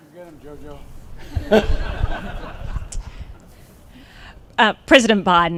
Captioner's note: laughter